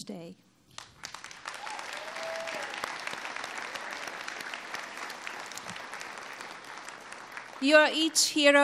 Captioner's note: applause